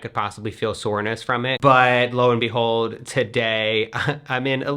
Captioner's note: laughs